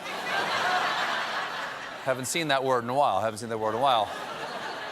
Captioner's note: laughter